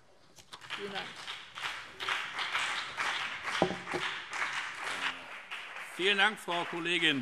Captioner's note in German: Beifall BÜNDNIS 90/DIE GRÜNEN und CDU